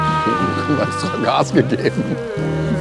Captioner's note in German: lachend